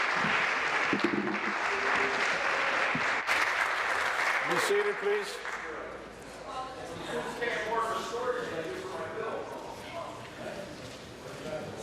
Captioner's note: applause